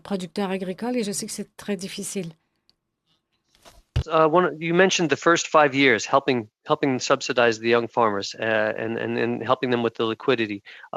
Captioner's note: speaking French